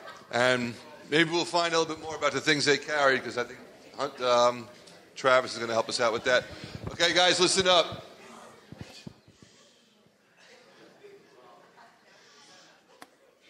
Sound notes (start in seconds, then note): 0.0 laughing; 8.3 audience members chattering